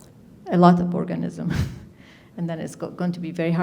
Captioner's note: chuckles